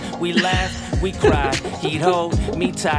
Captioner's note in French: rires